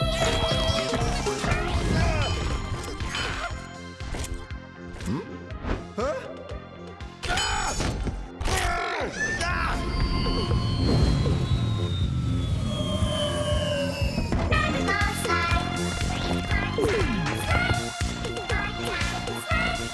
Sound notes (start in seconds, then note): 1.4 grunting; 9.8 whirring